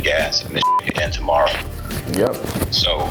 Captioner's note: beep